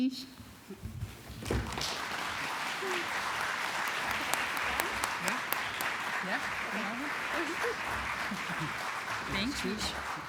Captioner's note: applause